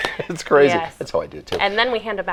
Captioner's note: laughing